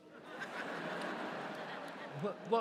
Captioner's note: audience laughs